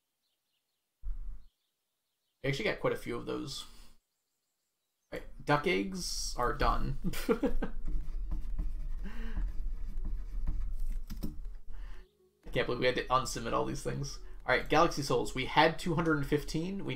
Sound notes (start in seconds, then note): 7.0 laughs